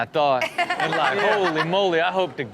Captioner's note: Chanel laughs